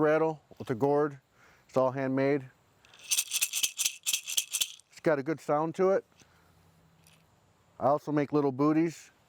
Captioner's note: rattling sound